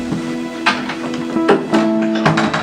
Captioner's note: door closes